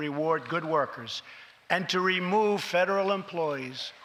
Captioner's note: none